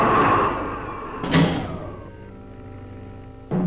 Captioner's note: head banging